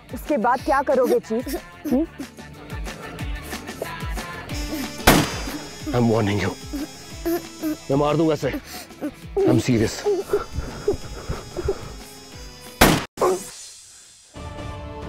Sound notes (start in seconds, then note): 5.0 gunshot; 10.9 girl crying; 12.8 gunshot